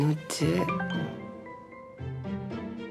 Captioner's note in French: sonnerie de téléphone